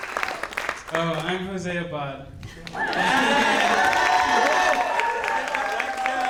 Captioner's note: audience applauding; audience applauding